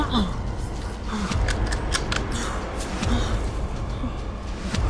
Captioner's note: rifle clacking